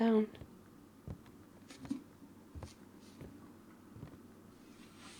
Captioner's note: footsteps